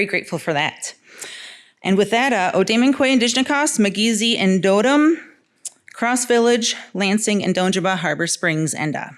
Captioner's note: speaking in Odawa